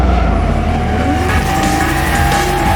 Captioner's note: engine revs; tires squealing